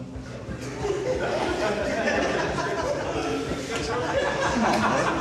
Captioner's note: laughter